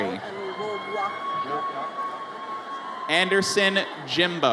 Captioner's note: audience cheers